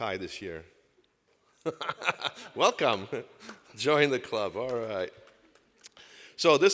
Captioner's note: laughs